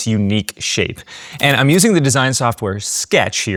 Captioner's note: camera clicking